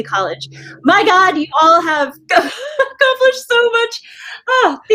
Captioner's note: laughs